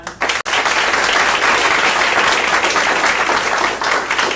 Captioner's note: audience applauding